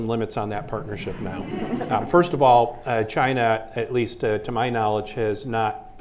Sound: laughter

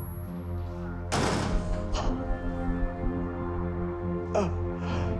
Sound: injector thudding; Wilzig panting; deep ominous music

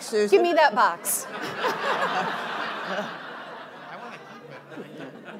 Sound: audience laughing

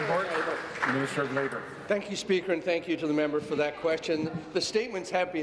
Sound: applause

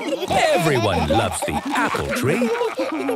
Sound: laughter; laughter

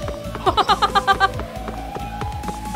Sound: chuckles

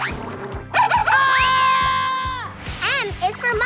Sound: screaming

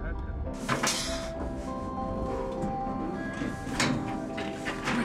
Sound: metal clangs

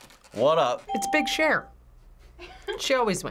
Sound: FBE laughs

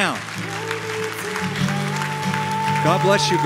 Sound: applause

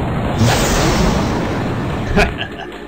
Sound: explosion

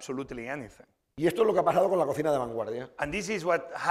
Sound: speaking spanish

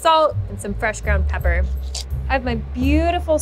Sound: grinder scraping

